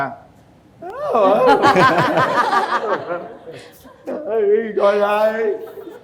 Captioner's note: laughter